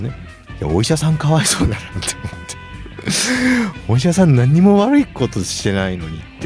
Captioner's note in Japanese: 笑い